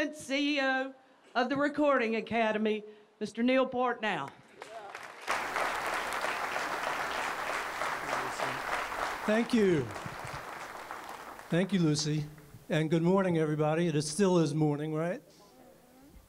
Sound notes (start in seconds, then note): 4.6 audience applauds